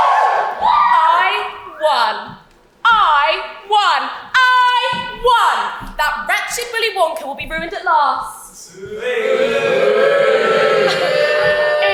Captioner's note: audience cheers, "YESSSS"; audience boos